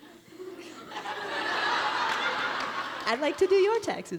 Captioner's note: audience laughs